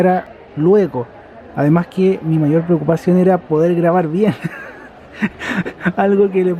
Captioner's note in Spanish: risas